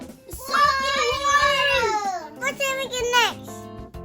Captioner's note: kids cheering